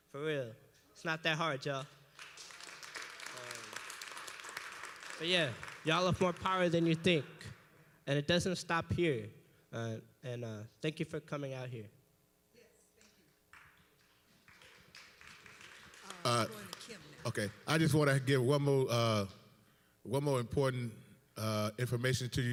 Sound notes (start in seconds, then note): 2.1 applause